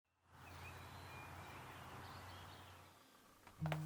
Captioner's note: birds chirping happily